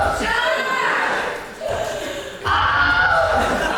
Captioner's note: Wilhelm Scream